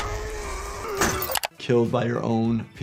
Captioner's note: Lumpy screams; click